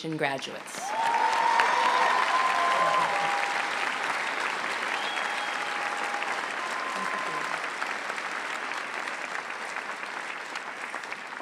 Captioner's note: applause